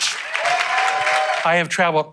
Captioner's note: audience applauding